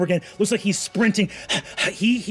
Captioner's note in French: haletant